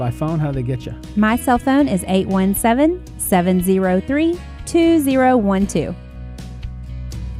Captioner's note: voiceover; ambient rock and roll music